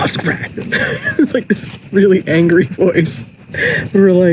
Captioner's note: laughs